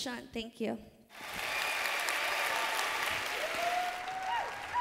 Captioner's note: applause